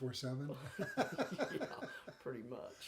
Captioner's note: laughing